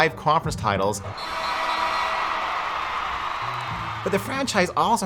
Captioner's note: audience cheering